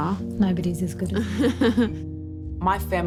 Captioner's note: laughs